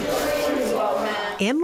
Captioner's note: nat pop of brush